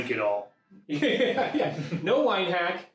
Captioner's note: laughing